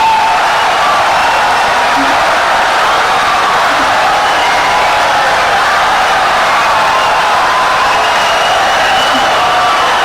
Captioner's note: wild applause and cheering for 17 seconds